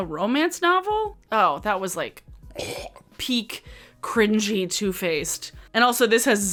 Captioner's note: coughs